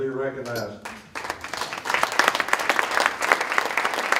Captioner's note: applause